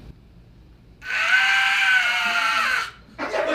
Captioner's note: Wilhelm scream